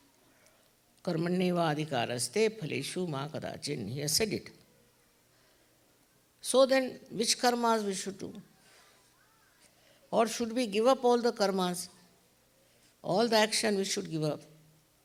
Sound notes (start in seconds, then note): 0.9 marathi